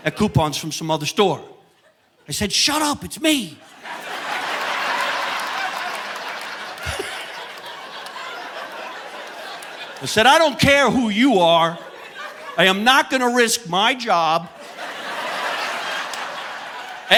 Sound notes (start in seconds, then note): 4.4 audience laughing; 6.7 chuckles; 14.3 audience laughing